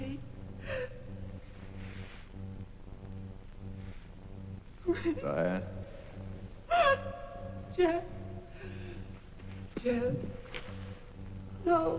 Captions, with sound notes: Daddy. - Diane? (Diane gasps) - Jeff? Jeff.